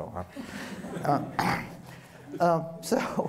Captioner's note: audience chuckling